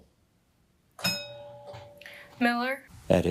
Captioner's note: bell rings